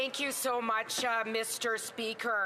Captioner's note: speaking French